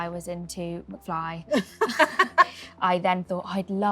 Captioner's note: Lauren laughs